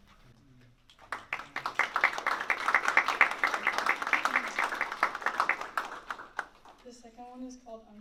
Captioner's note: applause